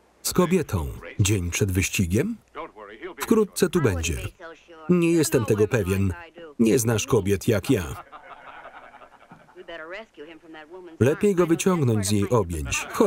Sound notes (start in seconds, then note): 9.5 laughing